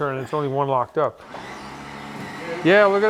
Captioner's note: winch rumbling